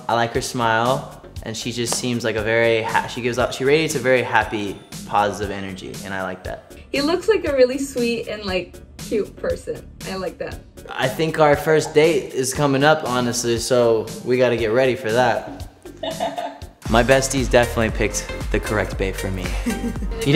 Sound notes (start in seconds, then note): 16.0 laughs